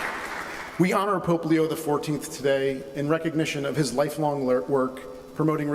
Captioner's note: applause